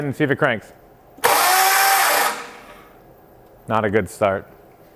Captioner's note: motor trilling